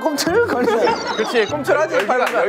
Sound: laugh out loud

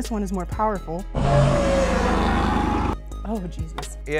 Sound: monster roars

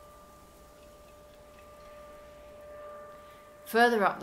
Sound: droning sound continues throughout

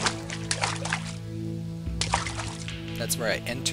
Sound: watery footsteps

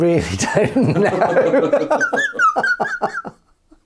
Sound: laughing

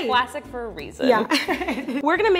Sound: laughing

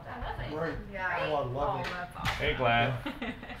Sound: background chattering

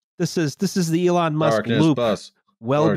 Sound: chants

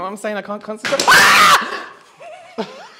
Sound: piercing Scream

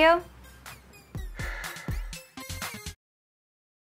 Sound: heavy breathing

